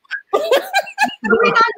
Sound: all laughing

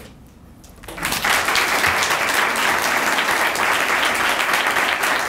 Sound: audience applauding

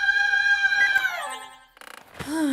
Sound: Mechanizer beeps

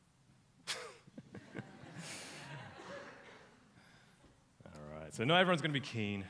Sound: audience laughs uncomfortably

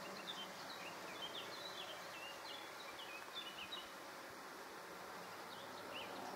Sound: birdsong, airplane noise; birdsong; birdsong, airplane noise

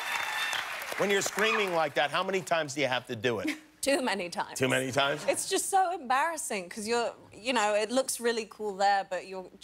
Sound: cheers and applause

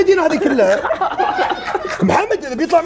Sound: laughing

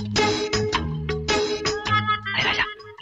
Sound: none

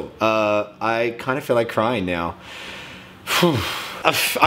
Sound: sighs

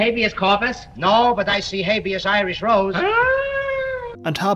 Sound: distressed noise

